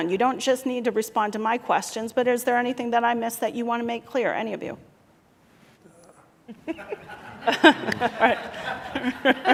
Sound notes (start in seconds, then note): 6.5 laughter